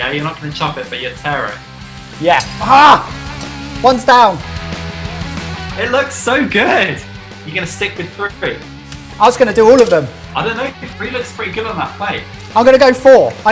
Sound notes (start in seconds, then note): 3.1 grunts